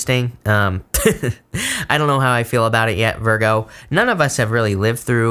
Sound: laughs

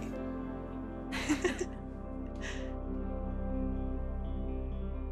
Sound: laughs

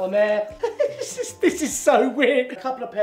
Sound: laughs

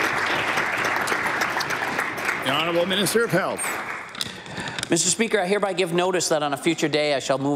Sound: applause

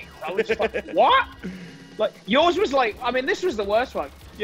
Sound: laugh

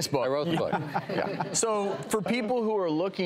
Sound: all laughing

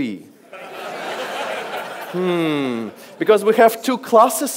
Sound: audience laughs

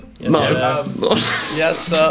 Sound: murmurs

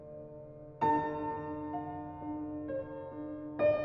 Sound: none

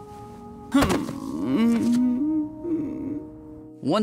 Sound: moaning

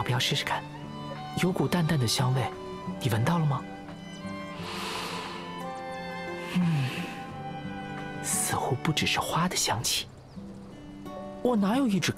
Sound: sniffs

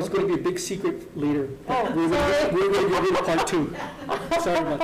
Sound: laughing

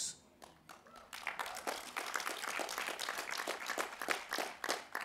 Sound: applause

